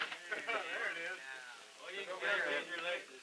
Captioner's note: chatter